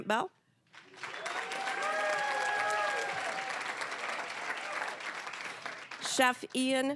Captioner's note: cheering, applause